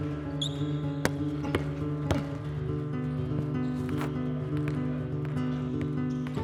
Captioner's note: soft upbeat music plays; shoes squeak; basketballs thud